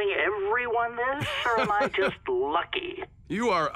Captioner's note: laughs